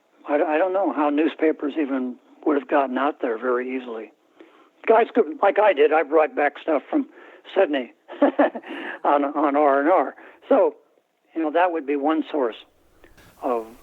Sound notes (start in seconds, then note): 8.0 laughter